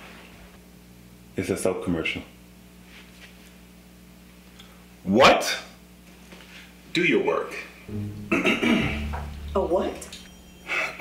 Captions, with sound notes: it's a soap commercial. What? Do you work! [Throat clearing. Sinister music.] A what?